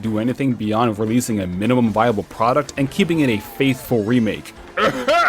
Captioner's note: cough